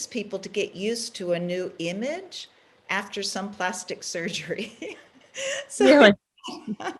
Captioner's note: laughs